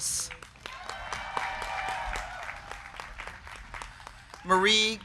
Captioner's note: crowd clapping; crowd cheering